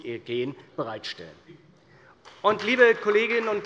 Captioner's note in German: Beifall bei der CDU und dem BÜNDNIS 90/DIE GRÜNEN